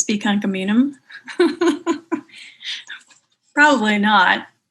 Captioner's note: laughing